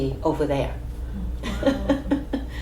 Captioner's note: laughs